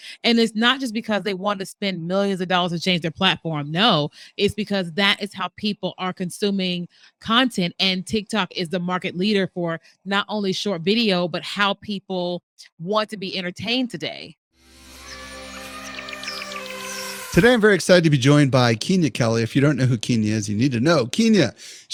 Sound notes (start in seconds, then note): 14.9 gentle rock music; 15.0 birds singing